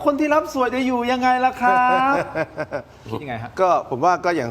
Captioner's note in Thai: เสียงหัวเราะ